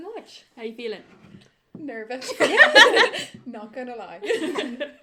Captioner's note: laughs